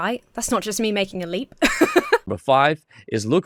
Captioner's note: laughs